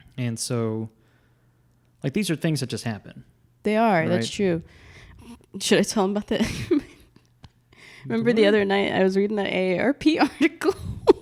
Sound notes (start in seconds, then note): 7.5 laughs; 10.9 laughs